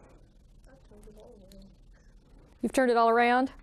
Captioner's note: student speaking faintly